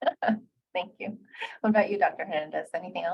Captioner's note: laughing